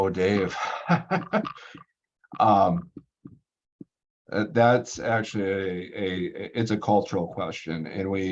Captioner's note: laughs